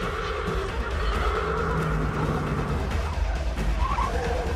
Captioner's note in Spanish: Chirrido de llantas; Ruido del vehículo en marcha